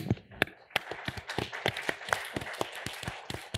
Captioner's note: applause